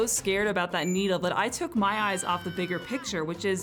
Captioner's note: kid screaming